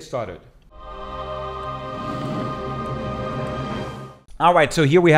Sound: people vocalizing dramatically

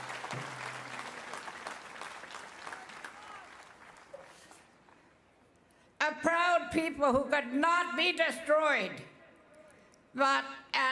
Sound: applause

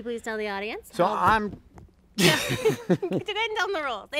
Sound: laughs

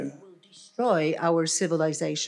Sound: foreign language

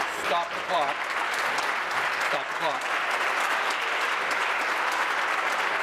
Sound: applause

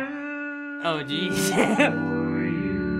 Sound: chuckles

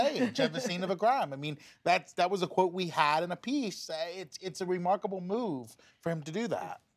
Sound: laughter

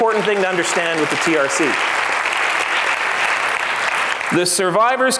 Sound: applauds

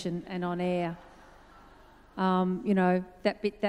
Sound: audience laughs

